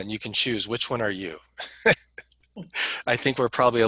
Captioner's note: laughter